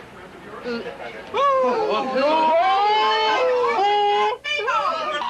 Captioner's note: booing